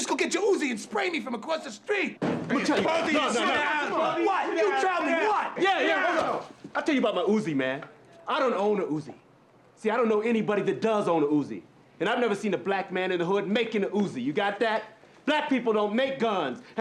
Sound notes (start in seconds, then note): 2.5 men arguing